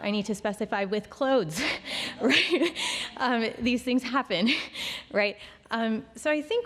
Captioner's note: chuckles